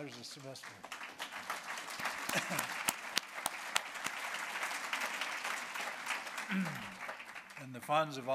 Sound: applause

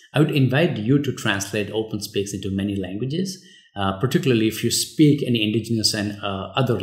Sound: uh

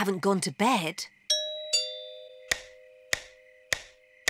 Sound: doorbell chimes

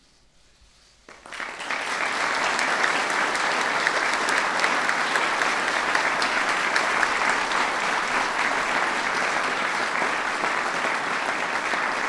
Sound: applause

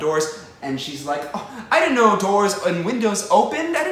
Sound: gasp

